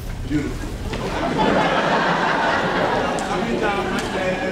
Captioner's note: crowd laughs